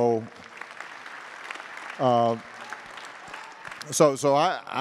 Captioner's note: attendees applauding